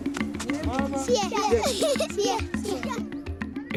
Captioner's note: upbeat percussive music; children giggling